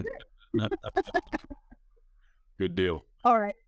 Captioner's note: laughing